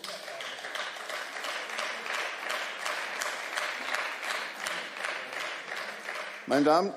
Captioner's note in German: Beifall